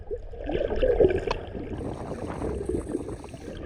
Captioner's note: water gurgling